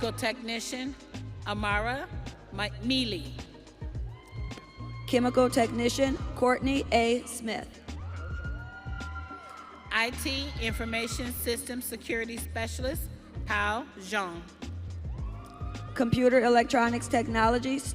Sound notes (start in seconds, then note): 4.7 audience cheering